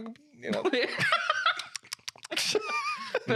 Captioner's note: laughing